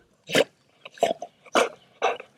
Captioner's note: dog snorting